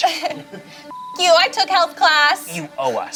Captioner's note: beep